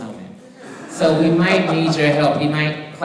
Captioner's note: audience laughing